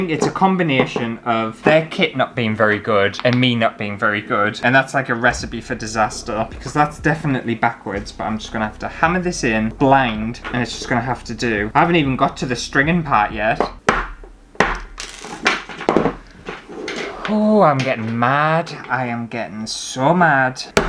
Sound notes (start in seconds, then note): 13.4 hammering